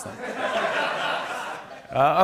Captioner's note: laughter